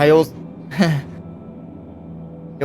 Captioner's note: awkward laugh